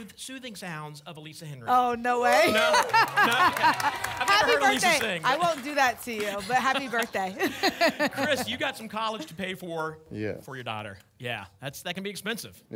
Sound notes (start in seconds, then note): 2.4 laughter, applause, cheering